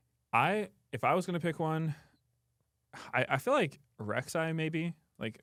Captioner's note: sighs